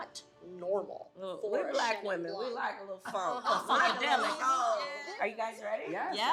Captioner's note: laughter